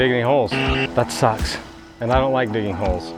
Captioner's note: loud buzz